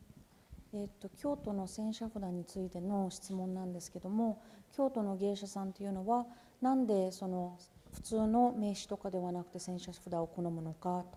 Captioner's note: speaking japanese